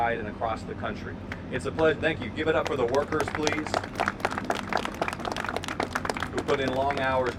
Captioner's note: applause